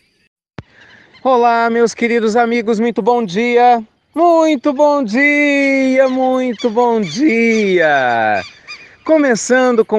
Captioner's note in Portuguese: Som de pássaros ao fundo